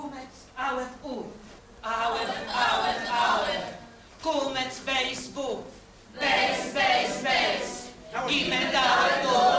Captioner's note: CLASS: chanting hebrew alphabet